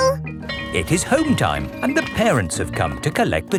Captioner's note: bell tolling